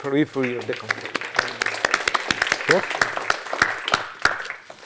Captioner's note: applause